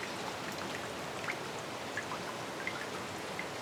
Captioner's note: water sounds; rain sounds; water sounds